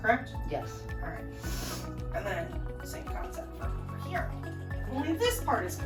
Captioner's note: sniffs